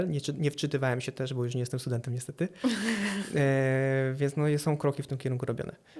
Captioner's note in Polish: śmiech